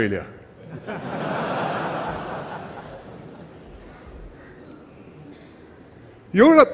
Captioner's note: laughter